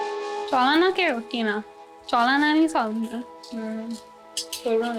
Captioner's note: speaking in foreign language